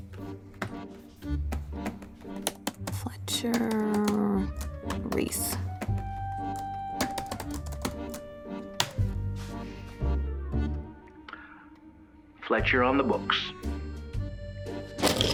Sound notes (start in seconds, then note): 2.6 typing; 15.0 pencils rattle